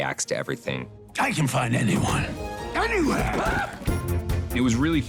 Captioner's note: screaming